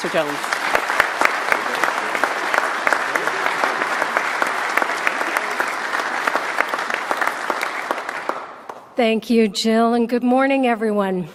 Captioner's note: applause